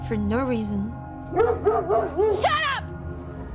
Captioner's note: dog barking